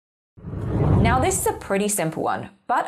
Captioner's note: air whooshing